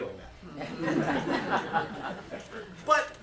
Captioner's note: laughter